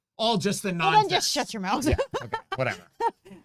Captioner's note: laughs